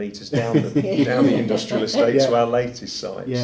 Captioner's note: laughing